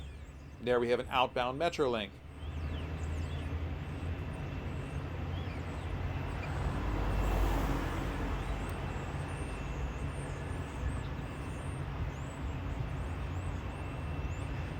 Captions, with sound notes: There we have an outbound Metrolink. [wind howling]